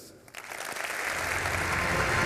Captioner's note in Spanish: Aplausos